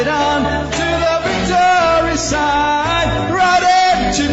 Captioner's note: చప్పట్లు